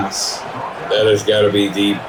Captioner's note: crowd Noises